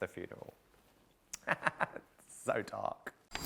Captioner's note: laughing